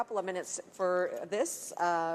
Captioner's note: speaking French